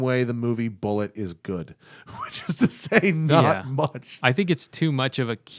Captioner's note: laughter